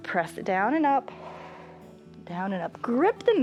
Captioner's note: exhales